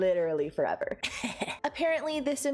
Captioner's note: gremlin giggle